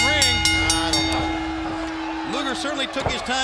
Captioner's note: bell ringing